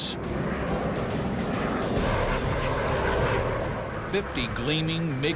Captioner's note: engines blaring